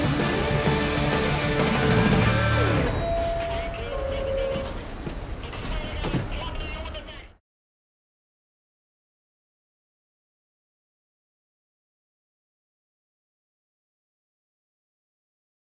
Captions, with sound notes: -[song ends] -[bell dings] [man over PA] Stand clear of the closing doors. I swear to God! I'm talking to you in the back.